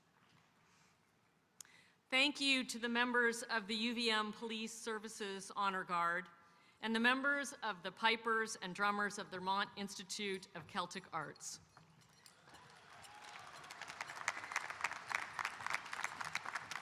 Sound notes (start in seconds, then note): 12.3 audience applauding